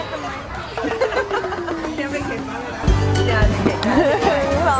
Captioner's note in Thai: เสียงหัวเราะ